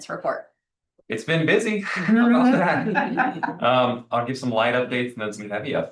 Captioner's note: laughter